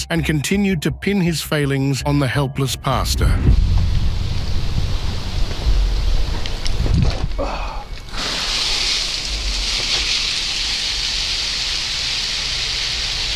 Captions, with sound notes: and continued to pin his failings on the helpless pastor. (foot steps rustling) (water splashing)